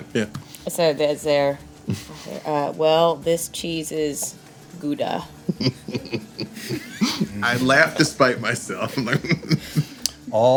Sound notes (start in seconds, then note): 5.0 laughing